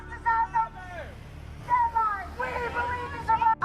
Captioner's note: muffled shouting